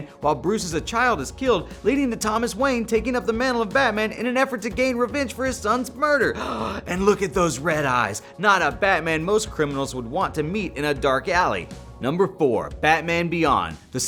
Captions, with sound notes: while Bruce as a child is killed, leading to Thomas Wayne taking up the mantle of Batman in an effort to gain revenge for his son's murder. (gasps) And look at those red eyes! Not a Batman most criminals would want to meet in a dark alley. Number four, Batman Beyond.